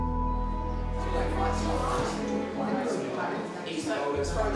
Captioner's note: people chatter